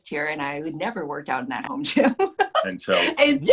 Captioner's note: laughs